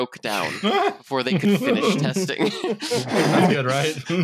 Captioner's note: laughter